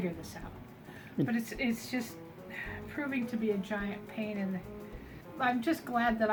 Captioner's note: sigh